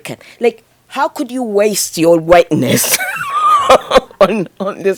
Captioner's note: laughs